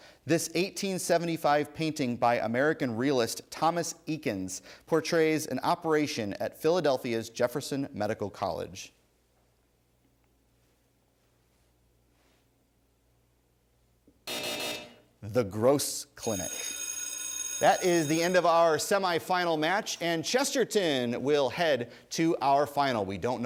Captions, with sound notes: this 1875 painting by American realist, Thomas Eakins. portrays an operation at Philadelphia's Jefferson Medical College. (buzzer) The Gross Clinic. (bell ringing) That is the end of our semi-final match and Chesterton will head to our final.